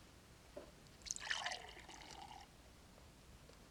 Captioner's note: pouring water